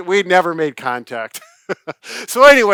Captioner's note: jovial laughing